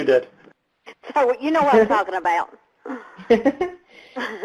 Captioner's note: laughs